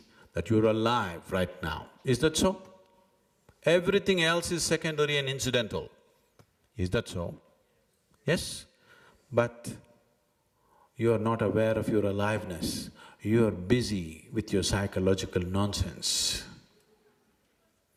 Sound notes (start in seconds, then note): none